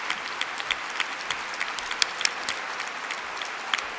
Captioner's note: applause